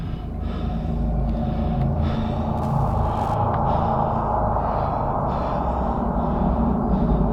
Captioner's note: spectral hollow sound